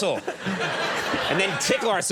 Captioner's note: audience laughing